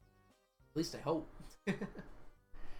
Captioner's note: laughs